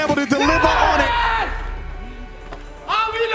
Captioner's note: players exclaiming